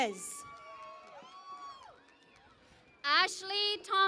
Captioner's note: cheering and Applause